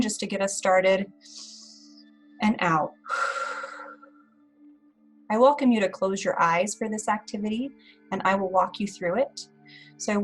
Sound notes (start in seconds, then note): 3.0 breathing out